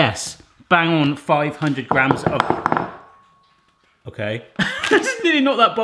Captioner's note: bowl clattering; laughs